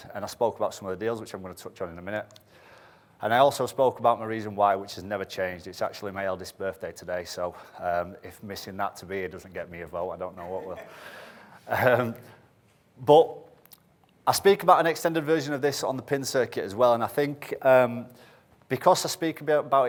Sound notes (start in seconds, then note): 10.4 audience laughs